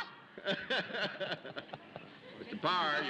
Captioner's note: laughs